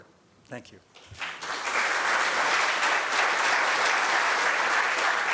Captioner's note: applause